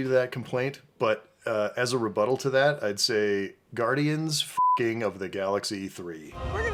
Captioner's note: beeping